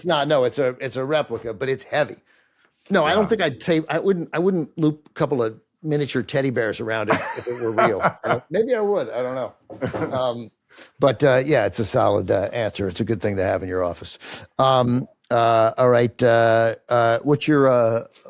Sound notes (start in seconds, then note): 7.0 laughs; 9.8 chuckles